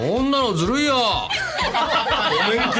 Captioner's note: laughter from everyone